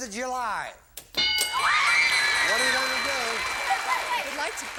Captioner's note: bell; applause